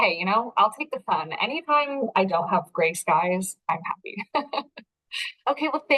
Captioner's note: chuckles